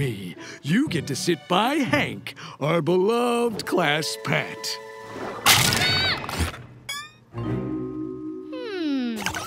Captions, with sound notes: You get to sit by Hank, our beloved class pet. [screams] Hmm...